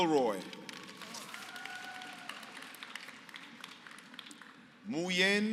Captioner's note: applause